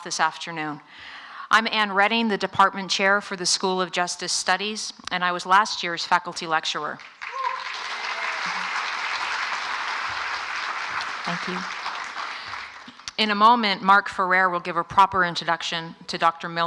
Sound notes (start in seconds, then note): 6.9 applause